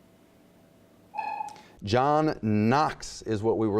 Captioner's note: dinging